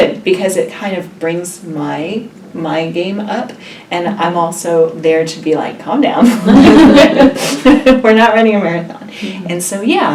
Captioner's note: laughs